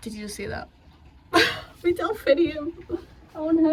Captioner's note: laughs